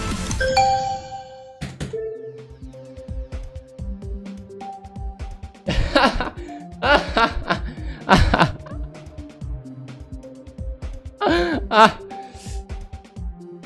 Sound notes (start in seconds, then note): 5.5 laughs